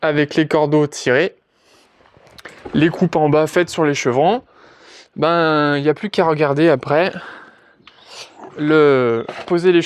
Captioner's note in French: grognement